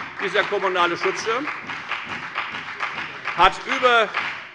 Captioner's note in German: Beifall bei der FDP und der CDU